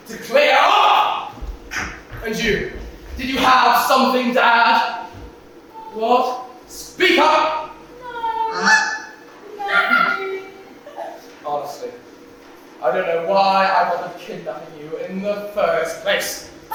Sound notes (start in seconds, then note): 8.6 honk